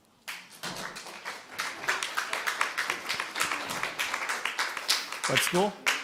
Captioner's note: applause